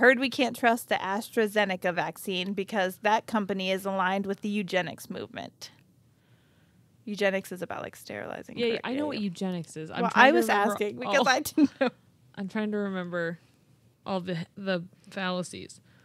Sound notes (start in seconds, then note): 8.9 murmurs